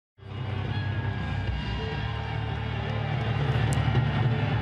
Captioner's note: crowd cheering